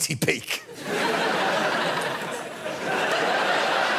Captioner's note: audience laughing